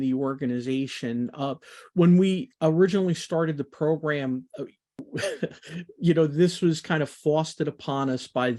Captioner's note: laughs